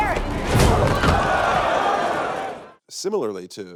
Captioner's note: crowd gasping